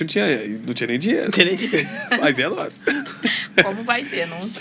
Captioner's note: risadas